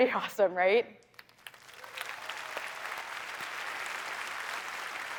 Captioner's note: applause